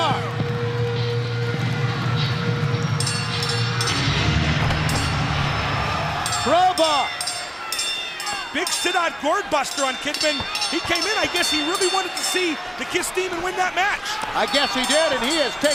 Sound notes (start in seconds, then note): 10.3 bell ringing; 11.3 crowd cheering; 14.4 bell ringing